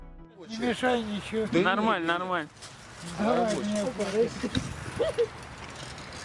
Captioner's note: interviewee speaking in Russian